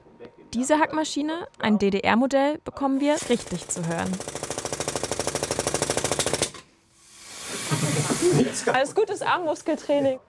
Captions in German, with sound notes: Diese Hack-Maschine, ein DDR-Modell, bekommen wir richtig zu hören. *lautes Rattern* Das ist gutes Armmuskel-Training.